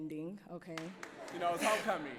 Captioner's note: clapping and laughing